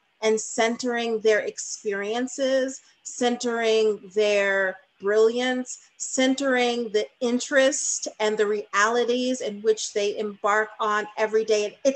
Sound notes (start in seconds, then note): none